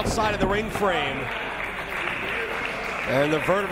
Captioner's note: applause